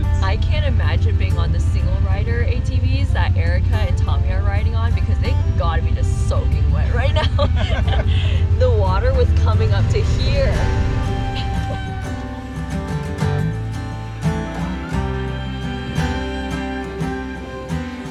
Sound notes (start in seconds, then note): 6.7 laughing; 11.7 upbeat music